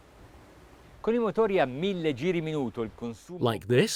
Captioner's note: speaking in foreign language